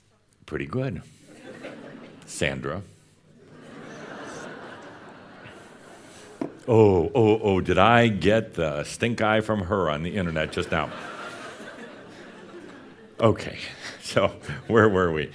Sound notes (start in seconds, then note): 3.4 some laughter; 10.7 more laughter